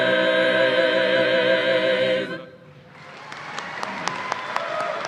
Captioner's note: applause